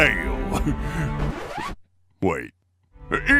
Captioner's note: chuckle; record scratch